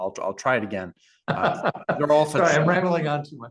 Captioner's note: laugh